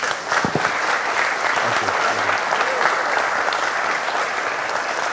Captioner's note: applause